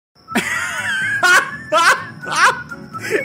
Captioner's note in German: lacht